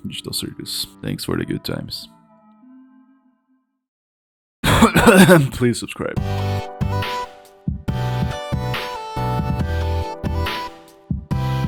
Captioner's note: cough cough